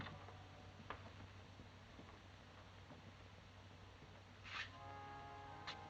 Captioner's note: none